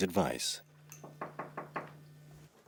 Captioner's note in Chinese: 敲门